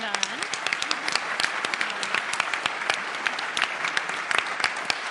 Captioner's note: applause